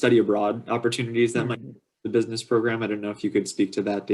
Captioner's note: radio interference